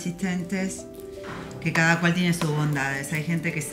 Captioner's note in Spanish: golpe sobre pared